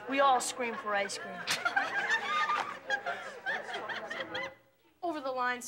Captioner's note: kids laughing